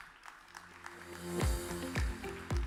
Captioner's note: audience applauds; upbeat music begins